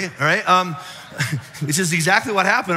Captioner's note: audience laughs